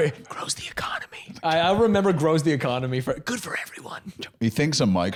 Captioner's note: whispering; whispering